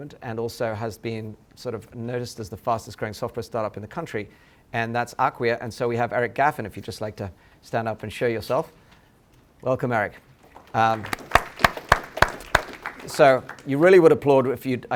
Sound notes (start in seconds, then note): 10.3 applause